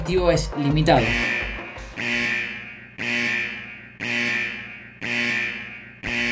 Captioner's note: alarm